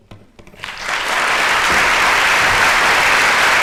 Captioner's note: applause